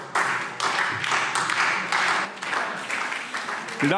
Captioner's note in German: Beifall SPD und vereinzelt DIE LINKE